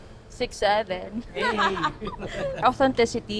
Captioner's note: laughs